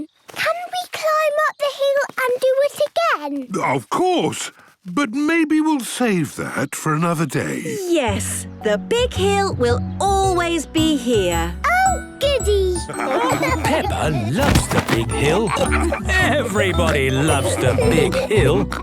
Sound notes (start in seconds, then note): 12.7 laughing